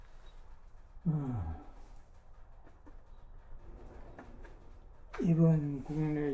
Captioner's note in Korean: 한숨